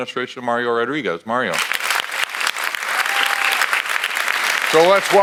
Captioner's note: audience applauds